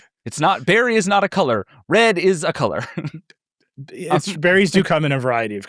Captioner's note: laughs